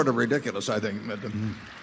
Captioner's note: applause